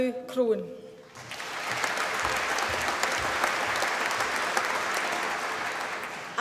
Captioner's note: applause